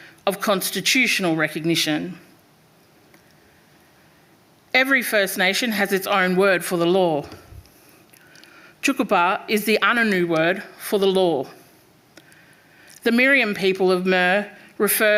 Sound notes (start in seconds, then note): 8.3 speaking foreign language